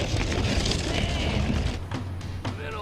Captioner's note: gate rumbling